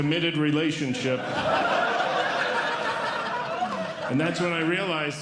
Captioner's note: audience Laughing